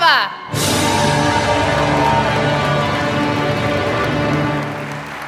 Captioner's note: applause